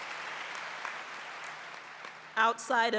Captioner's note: applause